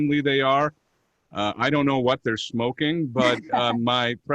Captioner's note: laughter